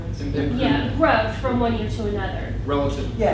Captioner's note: voiceover